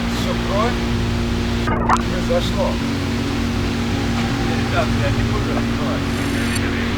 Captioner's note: static